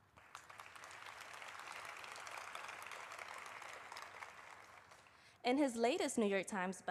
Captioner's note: applause